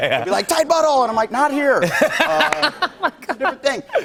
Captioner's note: laughter